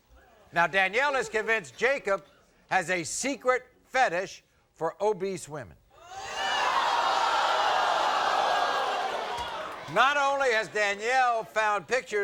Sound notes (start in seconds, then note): 5.5 audience gasping